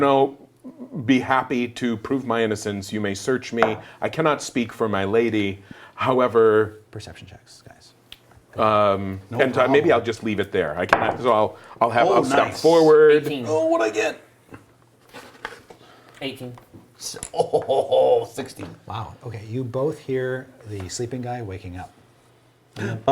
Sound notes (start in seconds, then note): 17.2 laughs